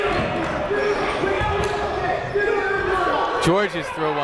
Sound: shouting

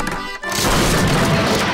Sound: crashing

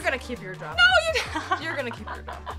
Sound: laughing

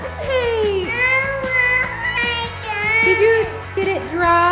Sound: crying

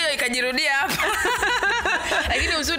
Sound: both laugh

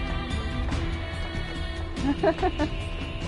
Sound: laughs

